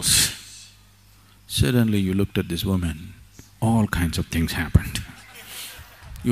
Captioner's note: laughter; 笑聲